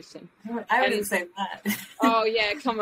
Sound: laughs

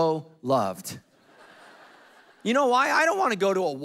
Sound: congregation laughing

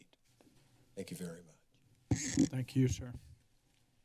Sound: mic noise

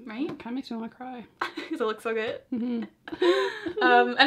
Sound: laughs

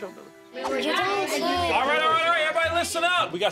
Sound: kids chattering

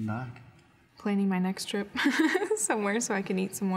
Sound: laughing

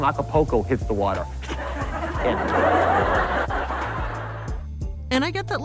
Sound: audience laughing

